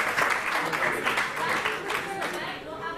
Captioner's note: applause